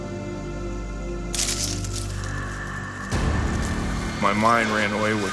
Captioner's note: twigs snapping